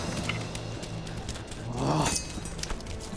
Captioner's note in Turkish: Müzik - Gerilim; Bağırma sesi